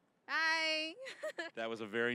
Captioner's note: laughing